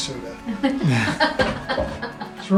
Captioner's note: laughter